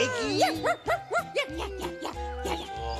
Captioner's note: barking